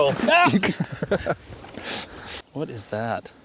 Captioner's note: laughs